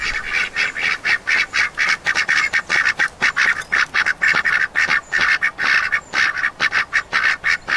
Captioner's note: quacking intensifies